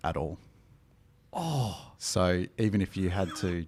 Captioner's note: groaning